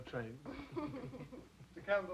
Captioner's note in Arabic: كلاهما يضحك